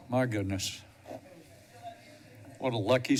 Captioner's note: pause